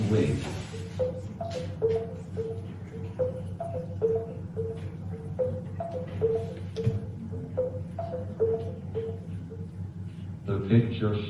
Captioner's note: beeping tone